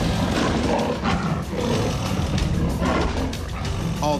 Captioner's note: tiger growling